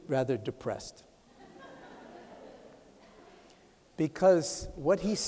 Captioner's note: laughter